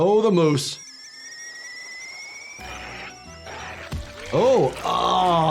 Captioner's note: kettle screeches